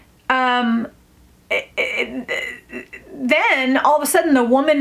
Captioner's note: makes weird throat noises